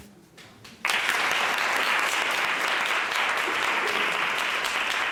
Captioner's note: applause